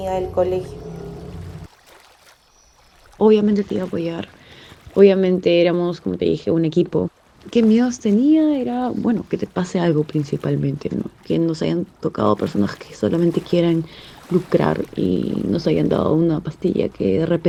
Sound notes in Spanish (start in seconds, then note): 0.0 sonidos de agua, coches y voz off femenina #1; 5.3 sonidos de agua, reflejo rostro humano y voz off femenina #2; 14.3 sonidos de agua, bandera y voz off femenina #2